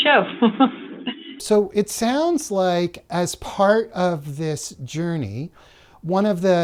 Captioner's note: laughter